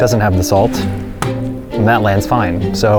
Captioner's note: plastic bottle flap sound